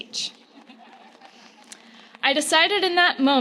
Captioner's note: loud laughter